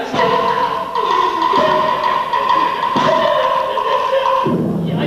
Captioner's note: Abe cries; Cannon boom, Dutch cheers as Abe whimpers